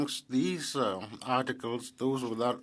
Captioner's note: speaking French